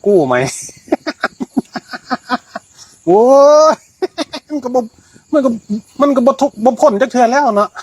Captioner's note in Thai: เสียงหัวเราะ